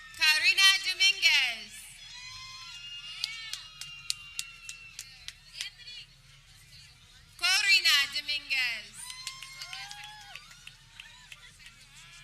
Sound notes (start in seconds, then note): 0.0 people cheering; 1.9 people cheering; 8.5 people cheering